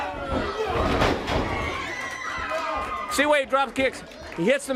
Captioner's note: crowd cheering